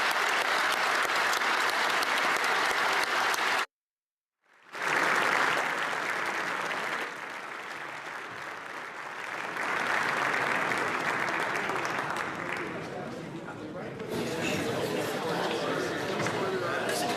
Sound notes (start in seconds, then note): 2.5 applause